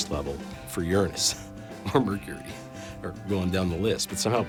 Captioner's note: chuckling